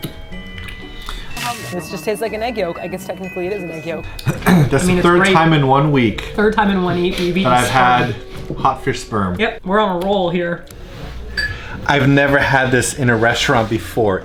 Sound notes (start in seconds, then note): 4.1 clears throat